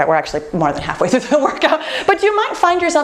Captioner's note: laughs